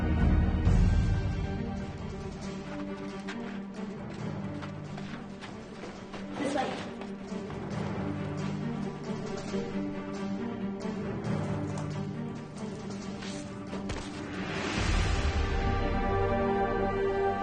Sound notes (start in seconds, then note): none